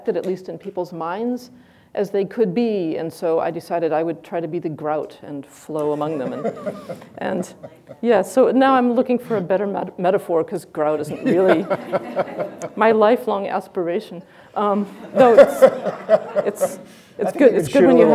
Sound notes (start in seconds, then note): 5.9 laughs; 11.1 laughing